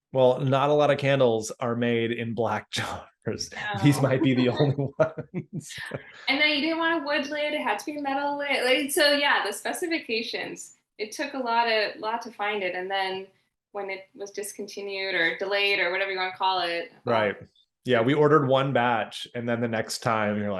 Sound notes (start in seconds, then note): 3.4 laughing